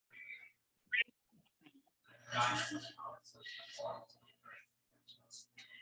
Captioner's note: people chattering indistinctly